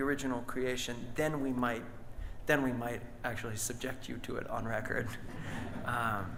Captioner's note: audience laughs; laughs